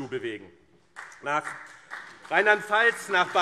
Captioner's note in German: Beifall BÜNDNIS 90/DIE GRÜNEN und CDU